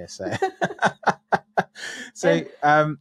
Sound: laughs

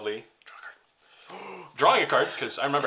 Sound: whispers: draw a card

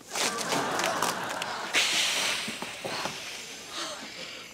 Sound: hissing; sighing

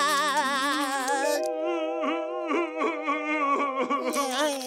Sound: crying; Patrick crying; crying

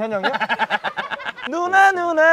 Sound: chuckling

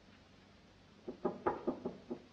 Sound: knocks on door

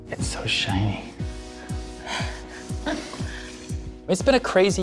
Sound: laughs softly

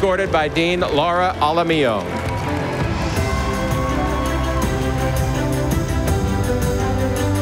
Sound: stately music; audience applauding

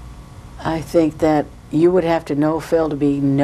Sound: none

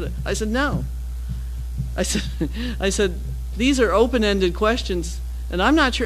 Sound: laugh

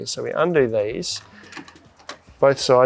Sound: latches clinking

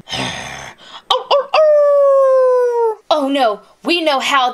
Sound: growls; howling

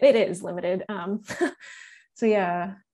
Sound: chuckling

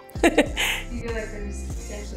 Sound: laughs

